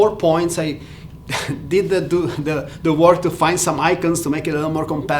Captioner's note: chuckles